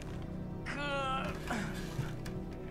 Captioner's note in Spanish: Josh gruñe